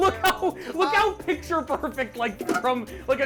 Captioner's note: laughs